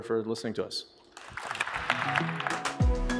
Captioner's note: applause